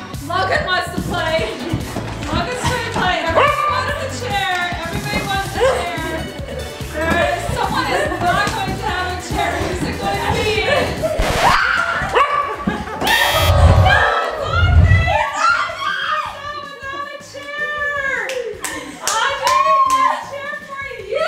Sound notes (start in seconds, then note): 11.2 record scratches; 11.6 dog barks; 13.0 buzzer